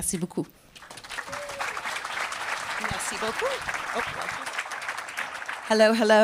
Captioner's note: applause